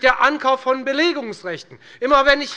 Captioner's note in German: Beifall bei der FDP